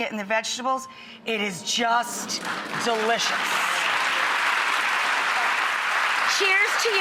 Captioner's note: audience applauds